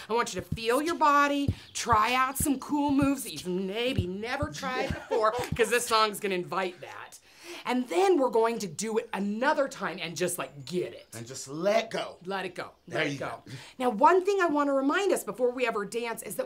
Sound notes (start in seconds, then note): 4.6 Chaz laughs